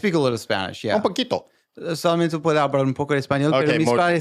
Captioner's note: speaking Spanish